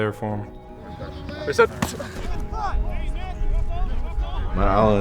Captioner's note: chatter between players